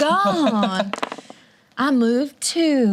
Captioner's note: laughs